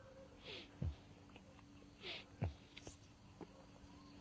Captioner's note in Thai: เสียงสูดหายใจ